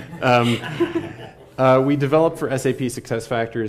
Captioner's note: laugh